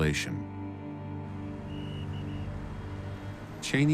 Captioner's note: whistle blowing